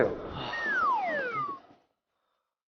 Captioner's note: Mendesah Deep